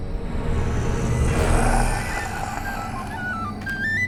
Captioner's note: zombie caveman growling